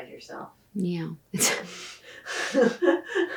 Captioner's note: laughs